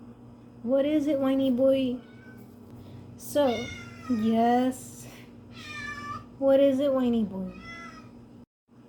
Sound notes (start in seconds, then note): 2.0 meow; 3.6 loud meow; 7.4 meow